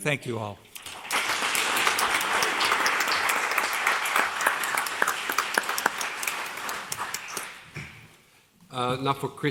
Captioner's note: applause